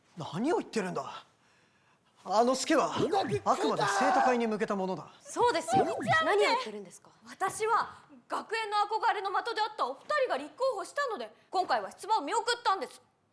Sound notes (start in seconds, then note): 3.5 kinyarwanda